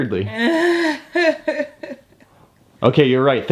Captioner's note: mom laughs